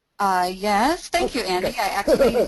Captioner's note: voiceover